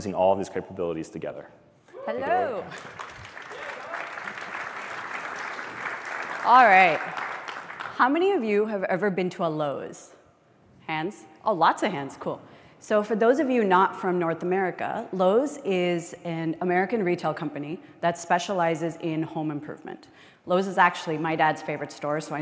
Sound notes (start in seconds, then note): 7.3 applause